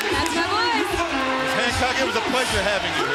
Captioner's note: bell ringing